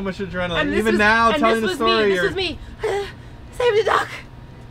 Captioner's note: breathing heavily